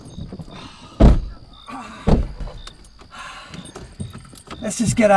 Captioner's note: Tommy groaning